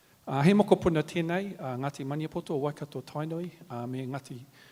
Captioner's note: speaks native language